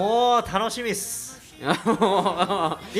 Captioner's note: laughs